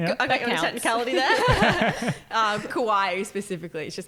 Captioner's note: laughing